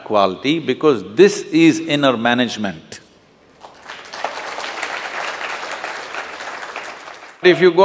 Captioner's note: applause; 掌聲